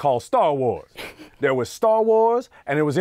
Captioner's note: laughing